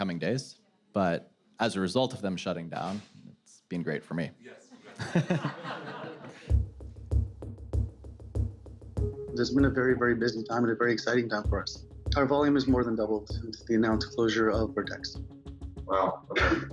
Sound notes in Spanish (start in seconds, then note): 4.7 risas